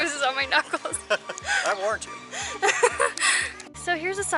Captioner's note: laughter